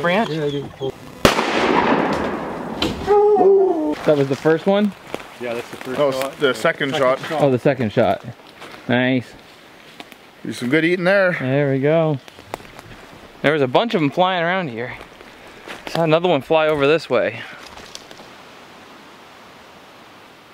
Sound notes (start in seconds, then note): 1.3 gun shots firing and dog howling